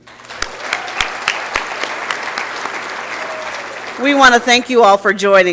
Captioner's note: applause and Cheering